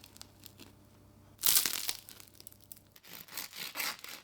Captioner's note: bonus crunch